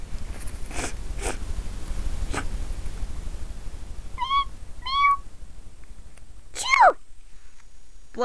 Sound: he sniffles three times; he sneezes

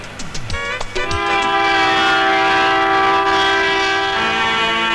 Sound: train horn blares

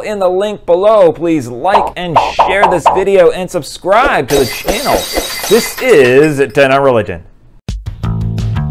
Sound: glass breaking

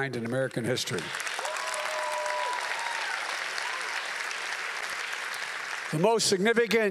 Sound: applause

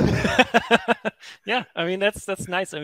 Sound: both laughing

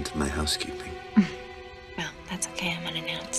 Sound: Meg chuckles

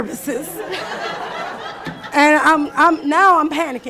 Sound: laughing

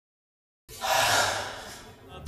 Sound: sigh

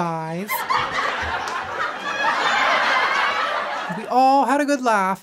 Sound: audience laughing hysterically

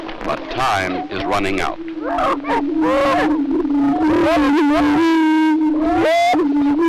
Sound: prairie chicken sounds

